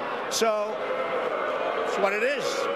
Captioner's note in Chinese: 噓聲